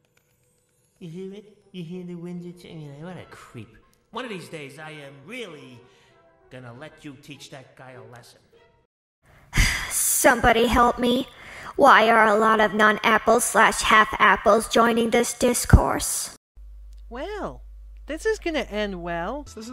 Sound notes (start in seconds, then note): 9.4 sigh